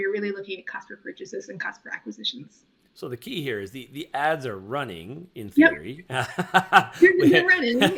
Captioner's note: laughing